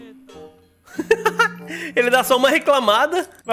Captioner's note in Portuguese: risos